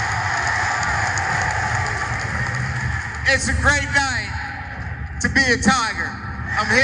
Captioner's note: applause